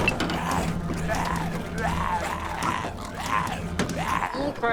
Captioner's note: snarling